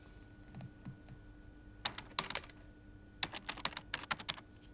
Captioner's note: keyboard clicking